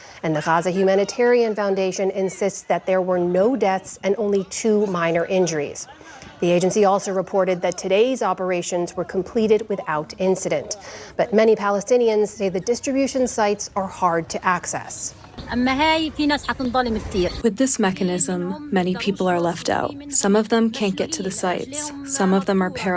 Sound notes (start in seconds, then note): 17.9 through translator